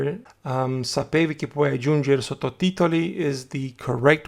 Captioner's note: italian